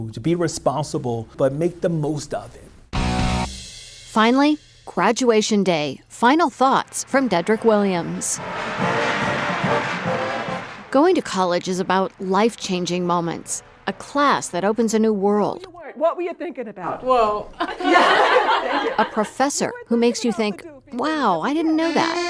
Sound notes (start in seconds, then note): 8.7 marching band music; 17.6 students laugh; 22.0 italian music